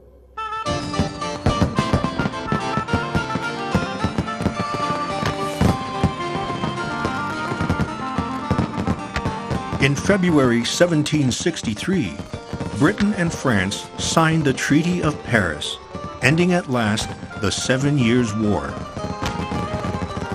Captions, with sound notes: (festive music plays) (fireworks crackle) In February, 1763, Britain and France signed the Treaty of Paris, ending at last the Seven Years War.